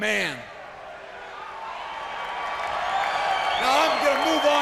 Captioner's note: crowd cheering